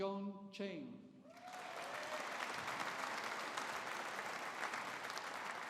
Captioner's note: audience applauding